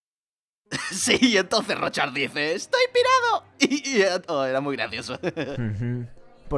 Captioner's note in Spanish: Risas